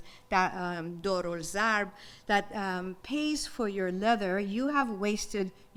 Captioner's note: speaks in foreign language